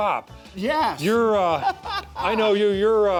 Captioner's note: laughs